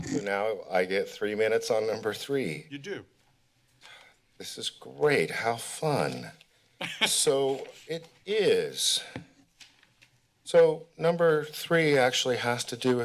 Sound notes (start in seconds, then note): 6.8 laughter; 7.4 rustling sounds